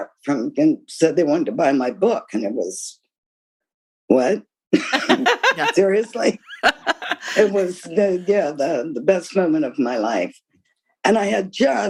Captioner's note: laughter